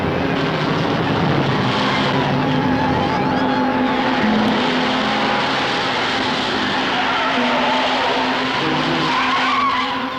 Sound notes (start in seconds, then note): 7.0 tires skidding